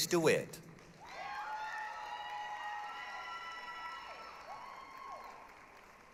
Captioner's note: applause, cheering